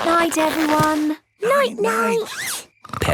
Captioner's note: snores